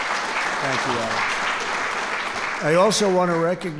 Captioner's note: applause